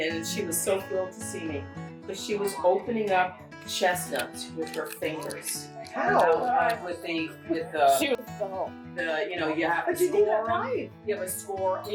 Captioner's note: everyone exclaiming HOW?! Oh god